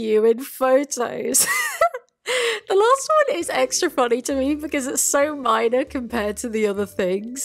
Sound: giggles

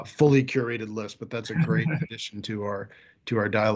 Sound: chuckles

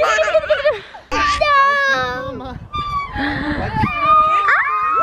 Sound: screams

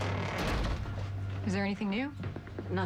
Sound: door closes

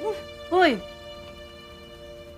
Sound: chuckles

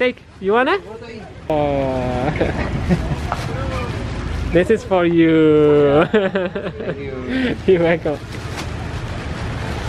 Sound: chuckles

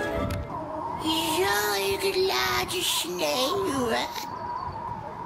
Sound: old woman speaks dutch

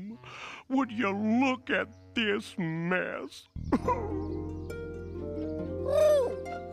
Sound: whimpers

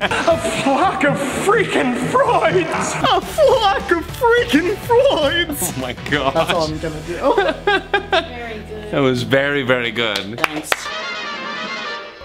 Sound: laughing; claps

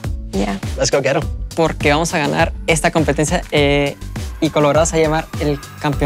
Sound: speaking Spanish

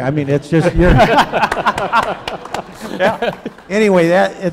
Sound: laughing

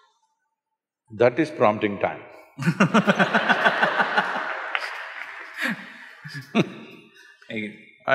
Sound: laughter

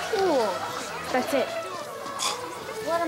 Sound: scoffs

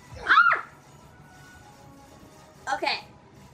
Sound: assistant screams

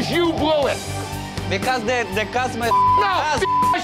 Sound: beeps

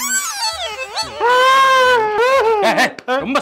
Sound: Howl crying again

